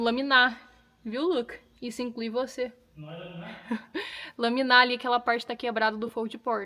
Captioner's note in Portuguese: risadas